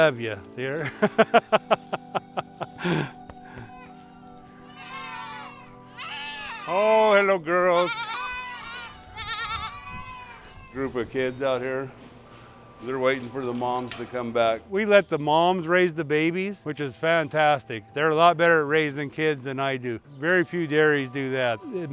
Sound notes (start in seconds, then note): 0.7 laughing; 4.5 goats bleating